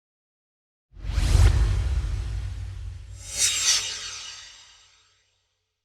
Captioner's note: swoosh